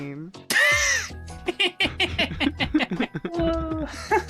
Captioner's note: laughing